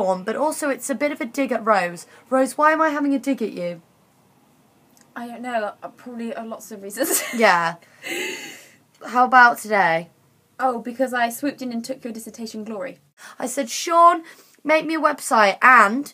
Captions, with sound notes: but also it's a bit of a dig at Rose Rose, why am I having a dig at you? I don't know, probably lots of reasons *laughs* Yeah How about today? Oh because I swooped in and took your dissertation glory I said Shaun/Sean make me a website and...